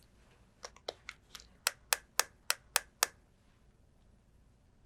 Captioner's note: bottle tapping